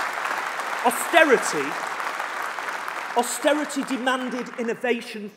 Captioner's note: applause